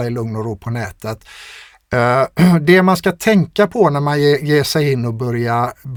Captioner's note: clears throat